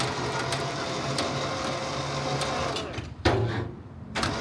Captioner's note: crane whirring